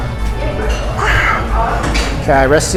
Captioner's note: grunts